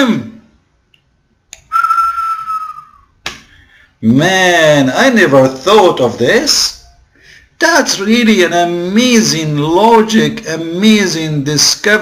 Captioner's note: whistle